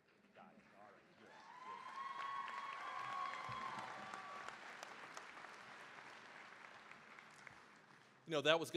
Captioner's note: cheering, applause